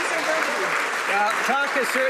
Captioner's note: some Applause